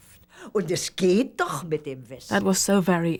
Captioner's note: speaking german